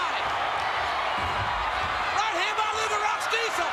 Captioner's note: crowd cheers